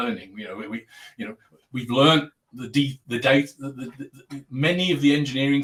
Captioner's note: abbreviated speech